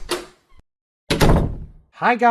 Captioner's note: door opening; door closing